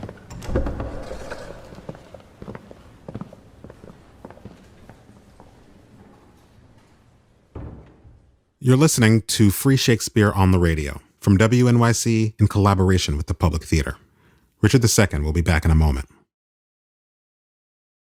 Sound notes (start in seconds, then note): 0.0 footsteps; 0.0 door opening; 1.8 footsteps departing; 7.4 door closing